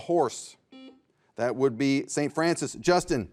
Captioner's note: buzzer beeps